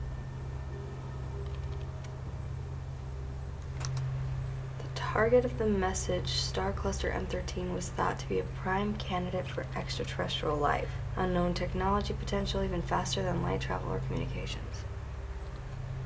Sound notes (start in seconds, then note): none